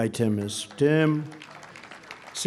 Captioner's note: applause